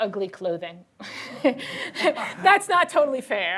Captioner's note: laughter